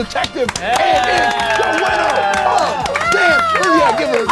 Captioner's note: group cheers